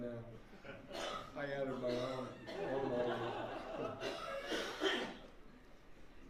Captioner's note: laughter